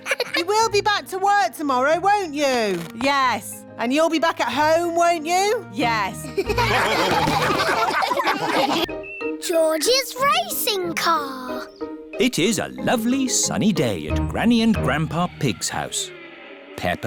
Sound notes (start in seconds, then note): 0.0 children laugh; 6.4 all laugh